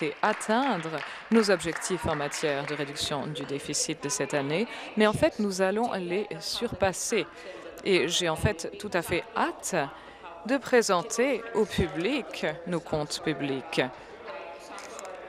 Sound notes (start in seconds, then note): 4.5 applause